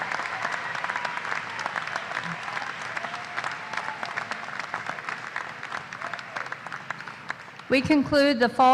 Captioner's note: applause